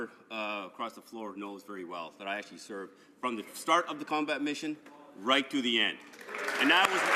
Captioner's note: some Applause